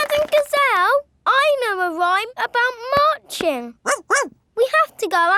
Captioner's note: laughing and clapping; barks